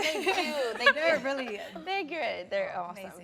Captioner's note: everyone laughing warmly